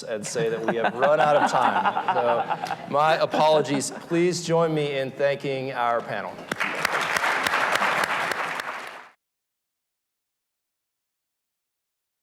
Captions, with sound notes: and say that we have run out of time. So my apologies, please join me in thanking our panel. (crowd clapping)